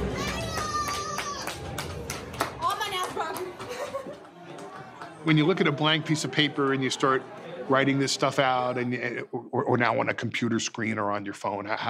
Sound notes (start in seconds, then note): 0.0 group clapping